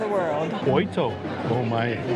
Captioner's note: in Portuguese